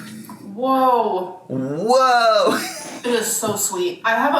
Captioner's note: laughs